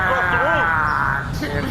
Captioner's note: loud whoosh, cheers